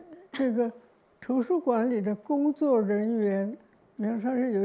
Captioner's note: Mandarin